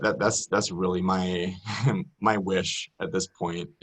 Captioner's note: laughs